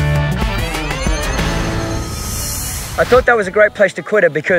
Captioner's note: shimmering